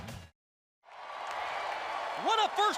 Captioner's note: crowd cheering